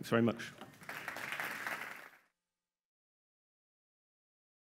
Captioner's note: audience applauding